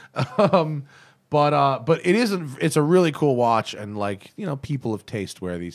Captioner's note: laughter